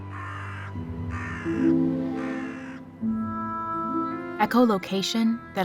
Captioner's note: crow cawing